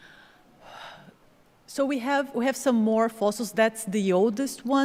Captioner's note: exhales